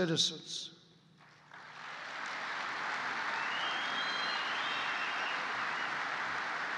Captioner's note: applause